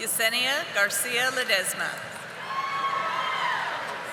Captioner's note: audience applauding